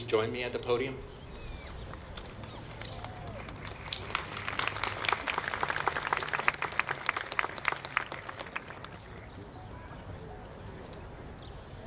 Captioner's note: applause